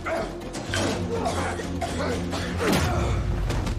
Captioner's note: Kelly coughs